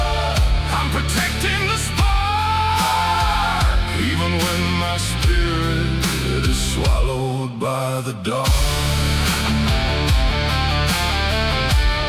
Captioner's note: screaming